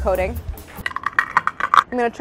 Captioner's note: nuts crunching